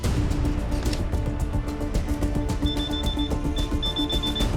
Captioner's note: beeping